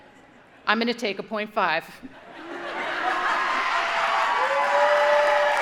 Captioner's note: audience laughing; audience cheering